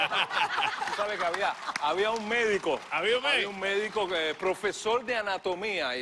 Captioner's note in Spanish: risas